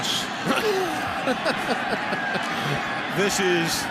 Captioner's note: laughter